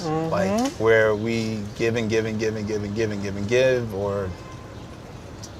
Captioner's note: both vocalizing